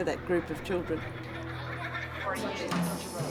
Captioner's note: children laughing